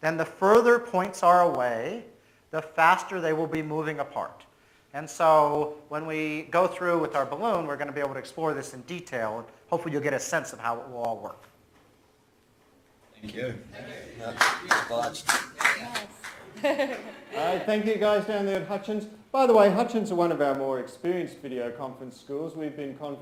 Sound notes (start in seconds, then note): 14.2 students applauding; 17.0 laughs